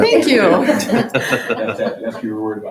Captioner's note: chuckling